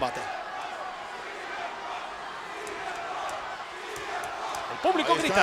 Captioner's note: applause